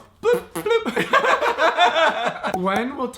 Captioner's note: laughing